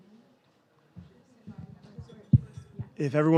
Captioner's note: group chattering softly